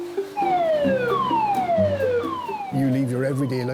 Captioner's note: gentle music; siren blaring